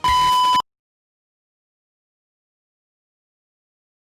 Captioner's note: beep